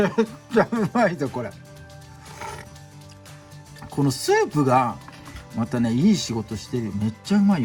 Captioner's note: laughs